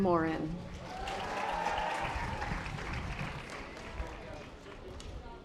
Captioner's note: audience applause